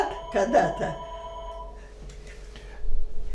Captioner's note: phone ring